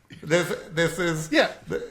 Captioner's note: laugh